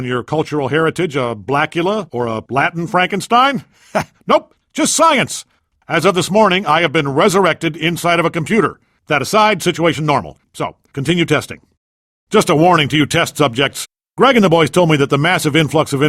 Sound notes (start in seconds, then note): 3.8 chuckles